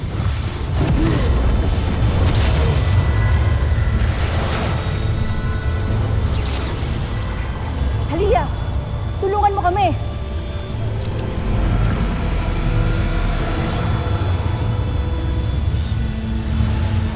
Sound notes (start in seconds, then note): 0.2 growls; 3.0 reverberating chimes, spellbinding whoosh; 10.2 ethereal music playing; 10.5 powerful whoosh-crackle